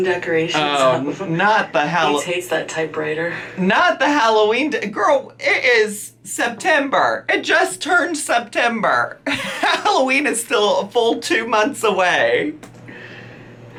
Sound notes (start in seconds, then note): 9.2 laughs